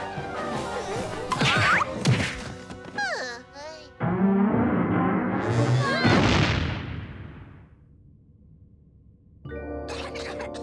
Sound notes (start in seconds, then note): 0.4 Captain Flamingo yelps; 3.8 dinosaur falls; 8.5 coughing